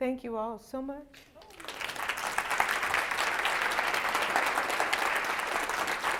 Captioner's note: applause